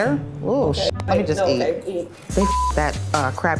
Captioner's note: beep